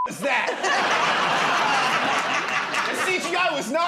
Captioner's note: laughter